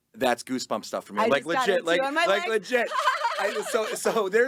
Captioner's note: laughing